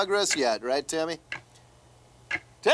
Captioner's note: clock ticking